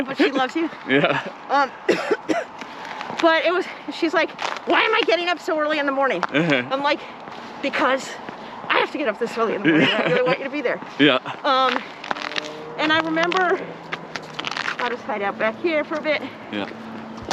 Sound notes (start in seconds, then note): 0.0 laughs; 1.8 coughs